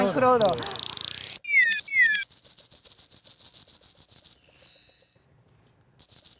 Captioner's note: Efectos de sonido